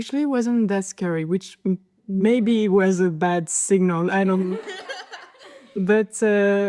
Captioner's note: general laughters